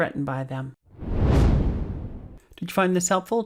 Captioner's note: air whooshing